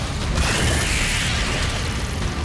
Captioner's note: screeching